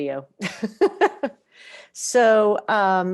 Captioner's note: laughs